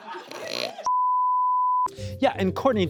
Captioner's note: beep